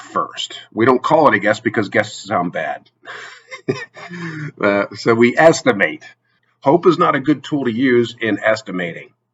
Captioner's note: laughs